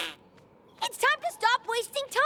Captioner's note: party horn blows